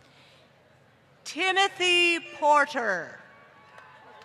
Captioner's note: applause